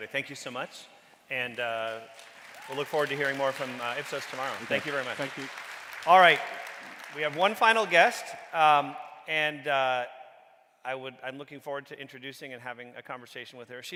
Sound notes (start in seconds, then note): 6.9 audience clapping